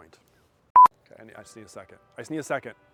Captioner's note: screen beeps